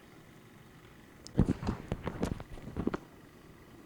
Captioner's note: equipment noise